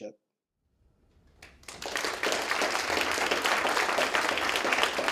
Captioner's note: applause